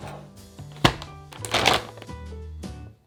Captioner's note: plastic rustling